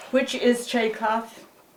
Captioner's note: speaks foreign language